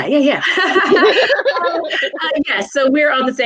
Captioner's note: laughing